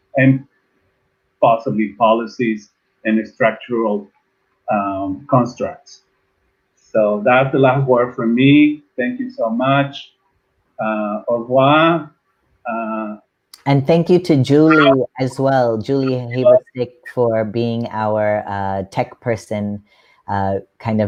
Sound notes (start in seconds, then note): 11.3 speaking in a foreign language